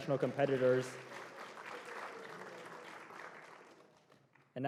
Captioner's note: applause